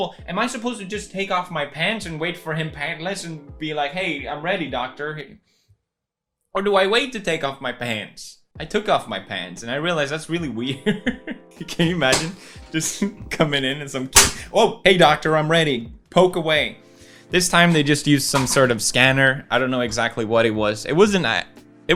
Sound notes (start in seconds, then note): 11.2 laughs; 12.1 breaks chair